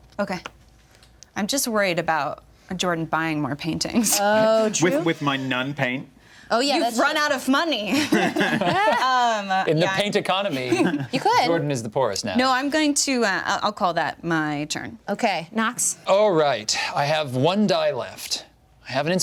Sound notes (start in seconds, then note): 10.2 laughs